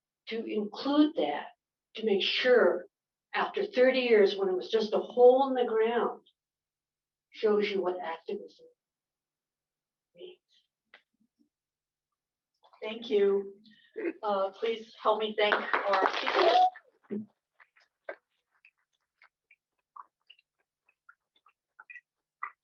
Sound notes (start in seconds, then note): 15.4 applause